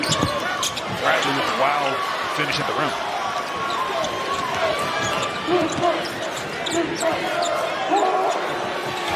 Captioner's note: cheering